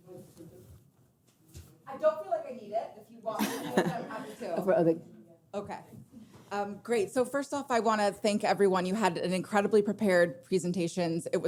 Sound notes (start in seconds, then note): 3.3 laughing